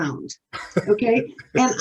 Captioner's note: laughing